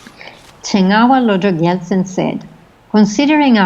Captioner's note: foreign language